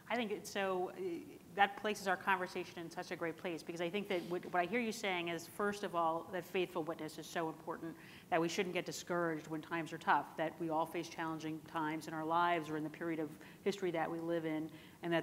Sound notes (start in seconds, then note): none